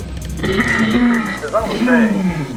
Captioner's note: clears throat